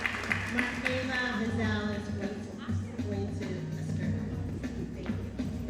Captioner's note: audience cheering and applauding; announcer faintly speaking